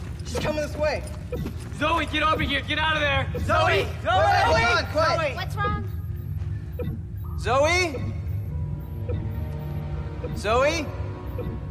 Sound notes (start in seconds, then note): 3.4 all calling; 5.3 blipping; 8.4 blipping continues